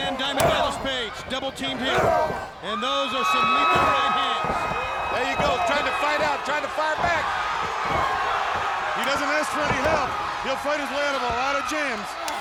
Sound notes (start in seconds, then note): 2.1 blows thudding; 2.1 crowd cheering; 5.0 blows thudding